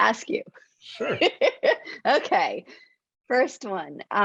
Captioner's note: laughs